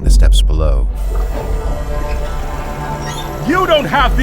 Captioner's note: sound of gate mechanisms